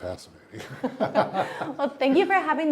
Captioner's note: laughter